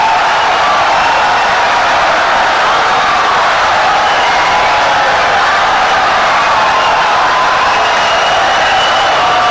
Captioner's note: wild applause and cheering for 17 seconds